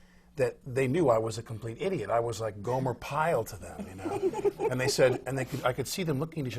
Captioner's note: laughs